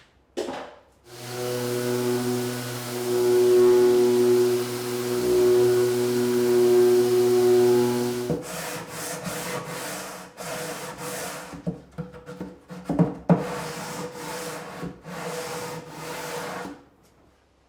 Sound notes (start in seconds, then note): 1.0 machinery whirs; 8.5 sandpaper scrapes